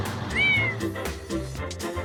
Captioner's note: cat meows; upbeat music